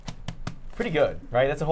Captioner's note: tortillas clapping